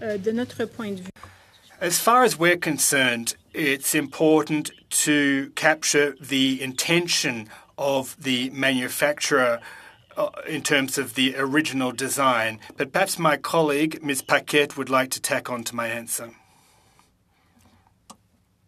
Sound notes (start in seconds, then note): 5.6 speaking French